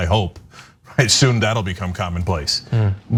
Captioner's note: laugh